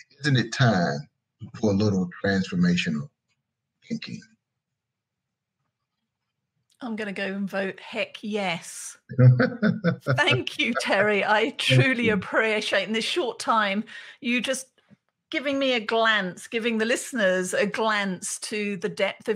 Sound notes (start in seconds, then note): 9.1 laughing